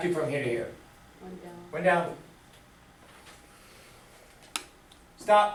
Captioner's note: voiceover